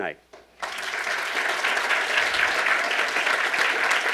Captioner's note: applauding